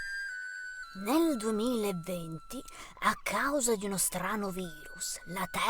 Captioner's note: voice-over